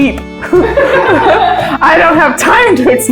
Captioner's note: laughter